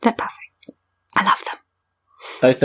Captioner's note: sighs